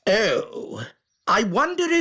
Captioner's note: none